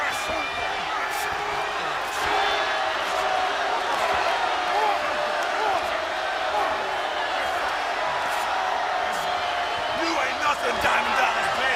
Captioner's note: crowd cheering